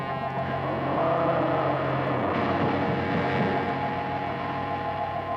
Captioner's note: dinosaur roaring